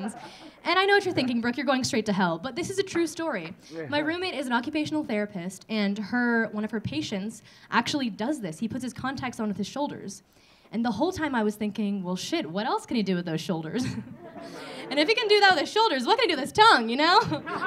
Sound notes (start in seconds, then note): 13.8 audience laughing